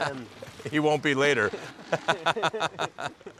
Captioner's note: laughing